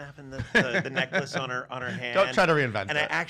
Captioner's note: laughs